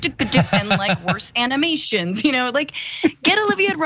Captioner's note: laugh